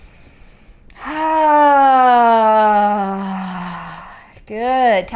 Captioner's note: inhaling and sighing